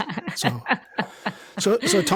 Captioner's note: laughs